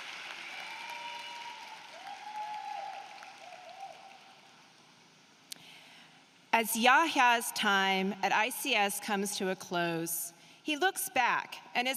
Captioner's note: applause